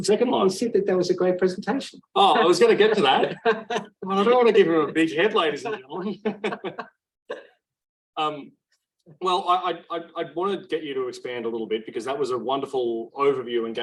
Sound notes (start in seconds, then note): 2.3 laughs; 6.4 laughing